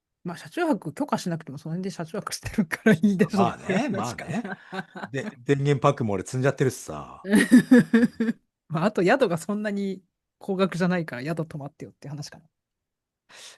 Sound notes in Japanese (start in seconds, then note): 7.3 笑い